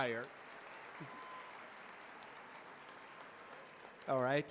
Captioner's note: applause